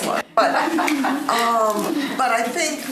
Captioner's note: laughing